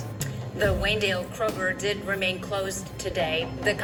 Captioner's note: on TV